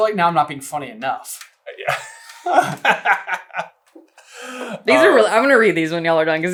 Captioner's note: laughs